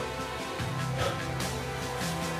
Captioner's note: sighing; upbeat music